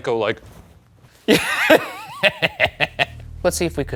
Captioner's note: laughing